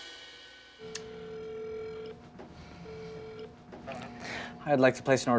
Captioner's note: phone rings